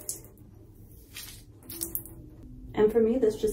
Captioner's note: squelching sounds